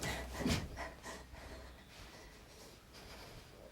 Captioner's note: Lucy gasping